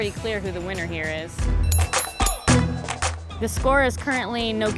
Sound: bell ringing

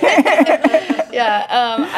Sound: laughs

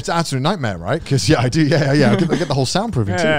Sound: laughs

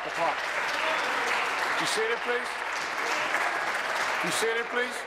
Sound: applause

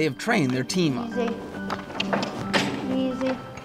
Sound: clicking with mouth

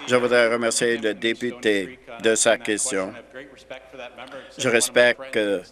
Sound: applause

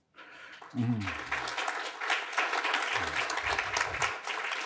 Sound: audience applauding; laughs

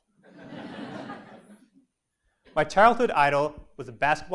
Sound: laugh

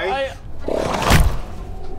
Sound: thwack

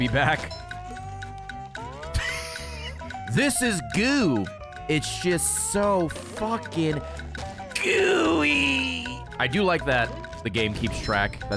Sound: laughs

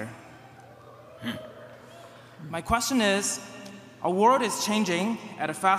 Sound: cheers

